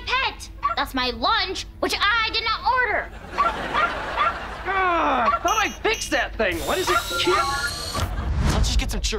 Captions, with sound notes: That's my lunch, which I did not order. [barking] [groaning] I thought I fixed that thing. Why does it keep-- Let's get some churros.